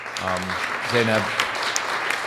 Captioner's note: audience applauds